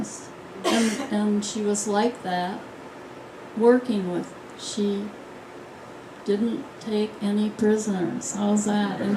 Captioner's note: laughter